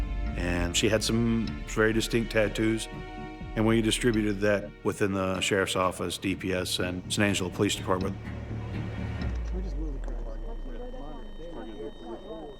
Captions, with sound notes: and she had some very distinct tattoos. And we distributed that within the sheriff's office, DPS, and San Angelo Police Department. (tense music) (officers chattering)